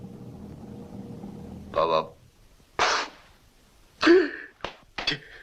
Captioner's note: sobs